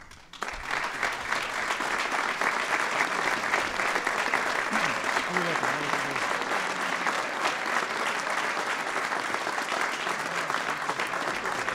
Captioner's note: applause